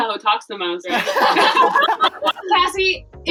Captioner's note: laughter